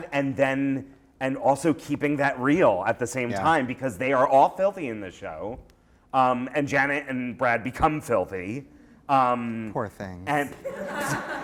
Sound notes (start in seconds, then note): 9.2 voiceover; 10.4 laughter